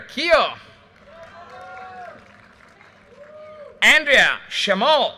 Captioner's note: audience cheers and applause